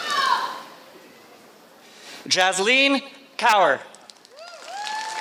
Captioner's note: applause